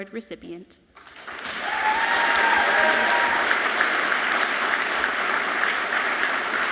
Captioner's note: audience clapping and cheering loudly